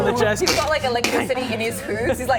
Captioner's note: crack